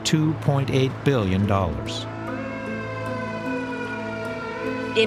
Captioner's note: siren blaring